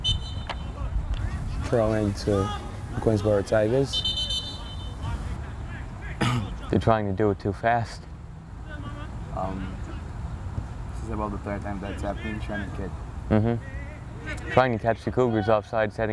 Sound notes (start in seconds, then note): 0.0 whistle blows; 3.8 whistle blows